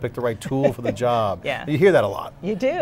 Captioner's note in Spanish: se ríe